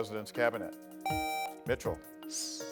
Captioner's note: buzzer beeps